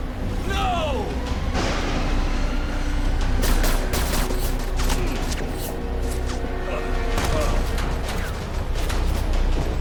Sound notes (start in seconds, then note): 2.3 thunder rumbling; 3.1 dramatic music; 3.1 lasers blasting